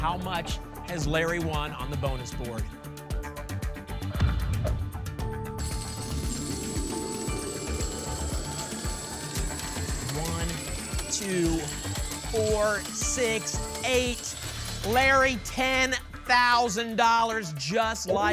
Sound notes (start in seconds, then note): 4.2 thump; 5.5 coins jingling